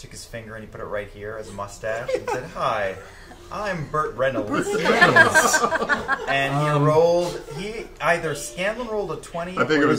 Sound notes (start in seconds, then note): 4.5 all laugh